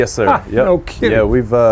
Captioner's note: laughs